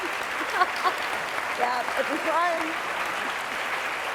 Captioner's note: applause